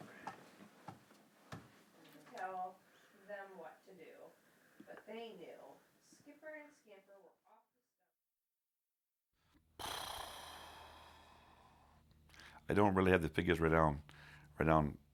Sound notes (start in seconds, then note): none